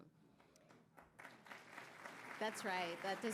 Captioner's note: audience clapping